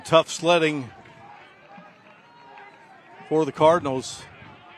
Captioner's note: applause